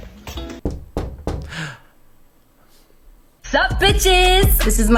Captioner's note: knocking on door